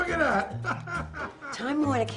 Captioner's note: laughs